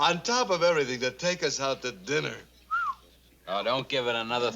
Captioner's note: whistles